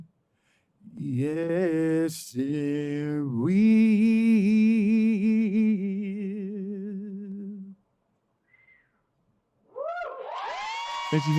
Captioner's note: applause